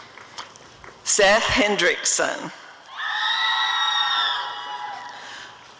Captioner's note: audience cheering